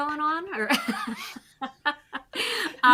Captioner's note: chuckles